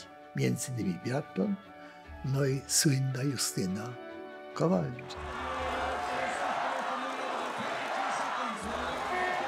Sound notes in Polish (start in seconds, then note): 5.1 Aplauz